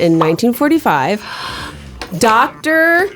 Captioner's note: both gasps